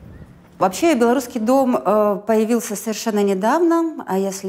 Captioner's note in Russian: женский голос